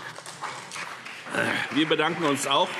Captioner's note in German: Beifall CDU und BÜNDNIS 90/DIE GRÜNEN